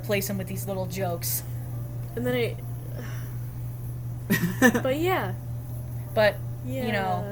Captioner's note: laugh